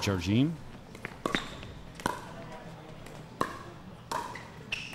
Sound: ball bouncing

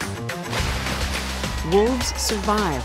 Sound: water splashing

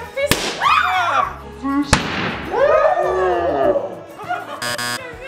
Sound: pop; screaming; slow motion pop; laughing; buzzer

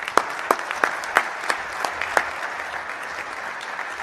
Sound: applause

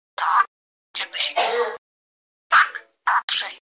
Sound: guardian’s cough in the ground

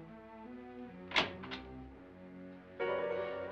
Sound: door opens

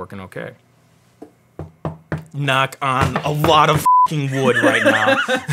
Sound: knocking on desk; beeping

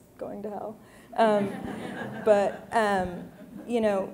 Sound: audience laughing

